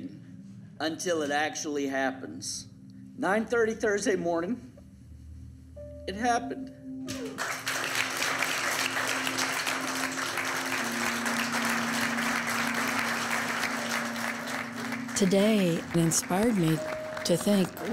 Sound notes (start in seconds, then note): 2.7 voice breaking; 8.0 applause